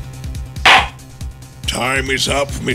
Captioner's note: gavel slams!